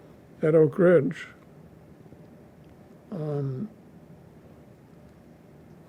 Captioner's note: pauses 6 seconds